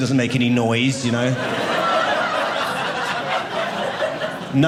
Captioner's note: audience laughing